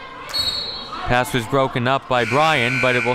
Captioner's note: referee blows whistle; clock buzzes; referee blows whistle